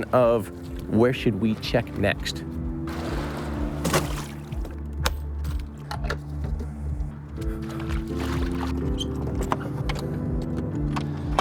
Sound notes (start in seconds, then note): 5.0 clip clicks